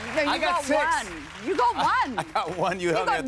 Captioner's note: chuckling